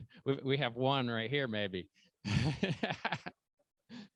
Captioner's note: laughs